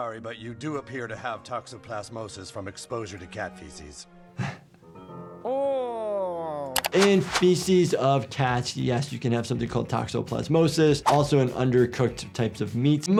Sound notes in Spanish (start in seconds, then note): 4.4 El médico de urgencias se ríe; 5.4 personaje gimiendo